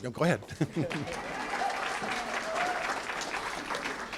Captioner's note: applause